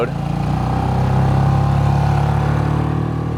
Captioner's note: motor revving